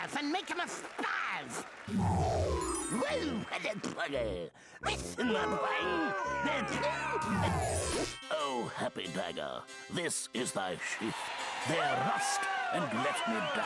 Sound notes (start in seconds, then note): 5.4 audience booing; 10.9 crowd cheering